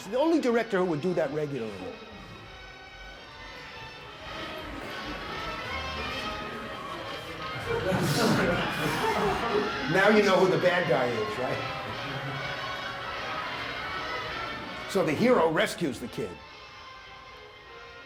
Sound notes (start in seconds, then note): 7.6 laughter